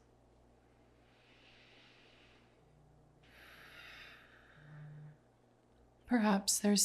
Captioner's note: instructor inhales and exhales